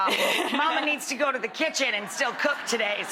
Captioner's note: laughing; crowd laughing